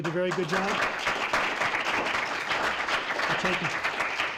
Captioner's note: applause